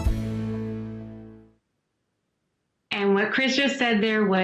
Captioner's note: speaking spanish